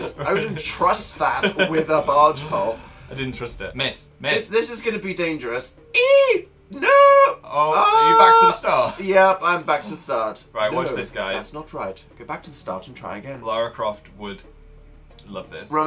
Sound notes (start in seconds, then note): 6.7 ahh; 11.4 mocking